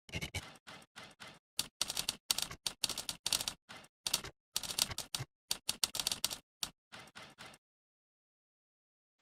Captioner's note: old school Typewriter Sounds